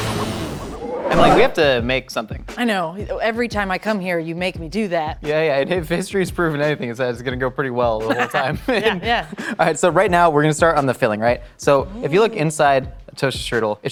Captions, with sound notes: Emily, we have to make something. - I know, every time I come here, you make me do that. - Yeah yeah, if history has proven anything it's that it's gonna go pretty well the whole time. - (laughs) Yeah yeah. - All right so right now we're gonna start on the filling. So if you look inside a Toaster Strudel,